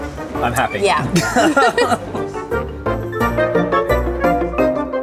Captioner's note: both laughing